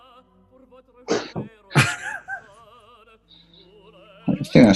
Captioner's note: giggling